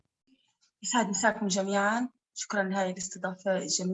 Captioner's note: speaking arabic